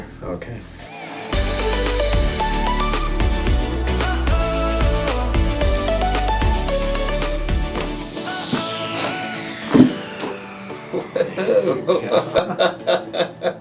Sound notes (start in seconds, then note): 7.9 joints cracking; 11.0 laughter